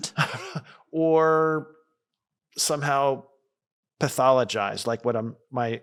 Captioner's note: laughs